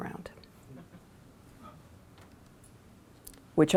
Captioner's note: chuckling